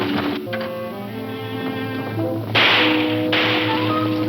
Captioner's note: gun shooting; tense instrumental music